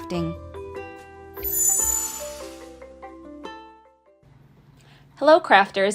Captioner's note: lively music; logo whooshing